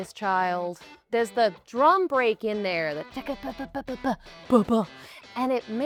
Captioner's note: drum imitation